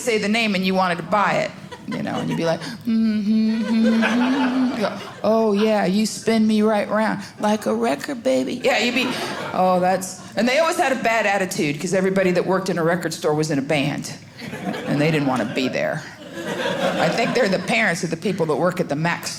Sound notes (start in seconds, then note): 2.8 humming